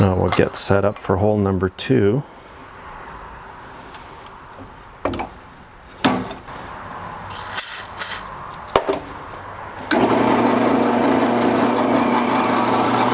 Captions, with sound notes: Now we'll get set up for hole number two. (spray hissing) (drill whirring)